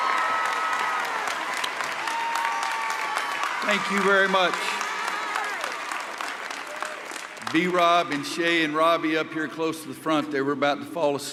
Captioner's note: cheers and applause